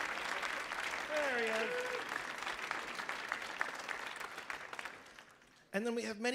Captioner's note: audience clapping